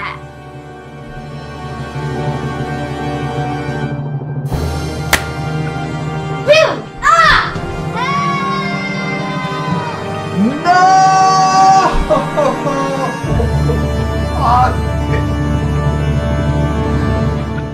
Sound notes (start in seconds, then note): 0.1 suspenseful music; 5.0 finger snap